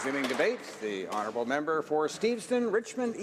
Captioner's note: applause